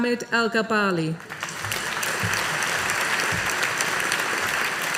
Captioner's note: audience applauding